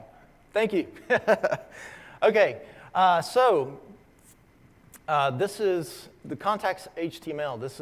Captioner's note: laugh